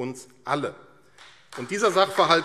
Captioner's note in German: Beifall AfD